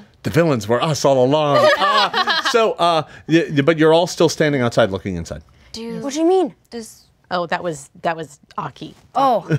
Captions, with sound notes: - The villains were us along. (everyone laughing) - But, you're all still standing outside, looking inside. - What do you mean? - Oh, that was Aki. - Oh.